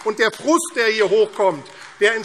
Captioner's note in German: Beifall AfD